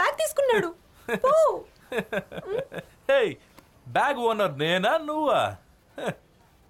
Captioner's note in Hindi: हँसी